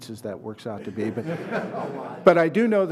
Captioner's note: laughter